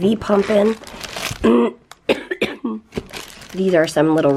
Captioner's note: coughing